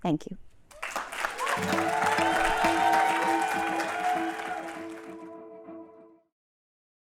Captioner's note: applause, cheering, and music playing